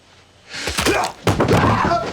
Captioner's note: bones crack; cries out